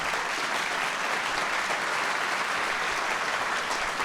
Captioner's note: applause